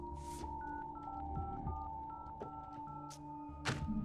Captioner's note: dial pad beeping